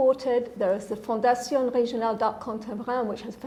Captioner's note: speaking foreign language